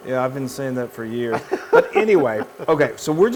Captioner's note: laugh